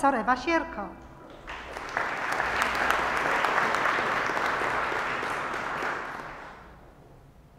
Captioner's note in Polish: oklaski